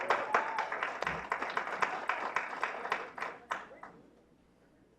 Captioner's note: clapping